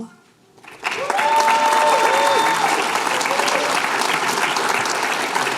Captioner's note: applause, cheering